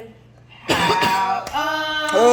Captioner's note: clears throat